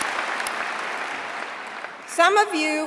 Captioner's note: applause